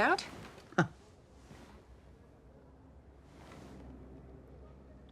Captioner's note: Alexander chuckles